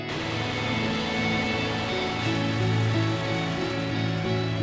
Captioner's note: sounds of water